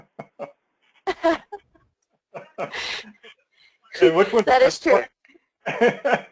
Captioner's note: laugh; laugh